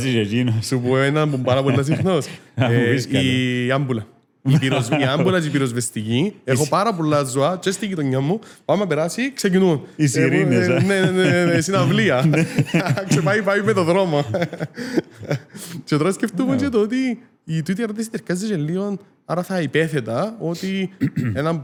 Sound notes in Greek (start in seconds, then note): 10.4 γέλια